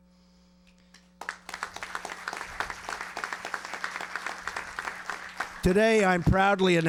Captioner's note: applause